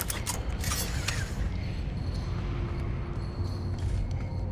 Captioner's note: graphics chiming